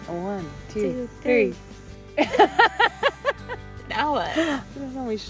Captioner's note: laughing